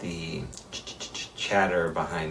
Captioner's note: chatters